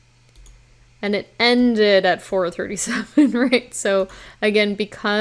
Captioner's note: chuckles